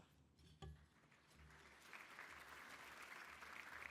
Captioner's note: applause